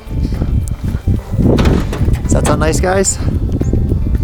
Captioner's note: door clattering